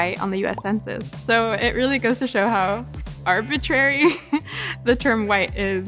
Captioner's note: chuckles